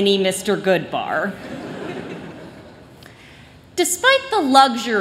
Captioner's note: laughter